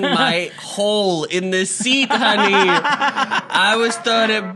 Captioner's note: laughs